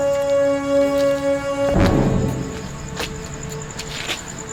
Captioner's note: footsteps clacking